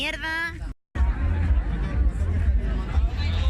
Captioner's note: crowd sounds